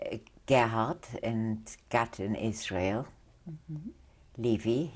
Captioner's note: non-english